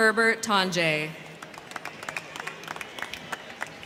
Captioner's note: crowd clapping